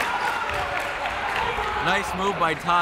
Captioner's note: crowd cheers